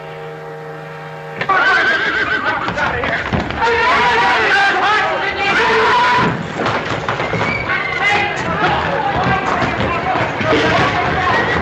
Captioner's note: people scream, horses neigh